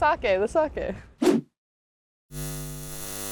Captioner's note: transition whooshes; eyes whir